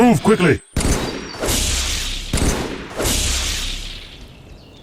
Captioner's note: shooting and slashing sounds